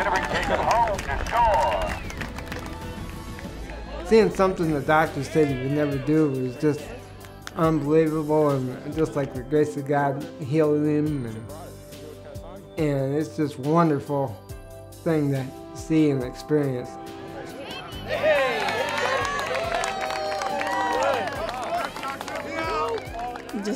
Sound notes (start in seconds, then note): 0.0 crowd cheering; 17.4 crowd cheering; 20.7 applause